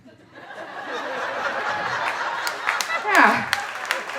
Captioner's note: audience laughing